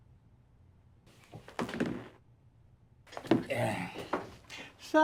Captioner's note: chairs squeak; hat thuds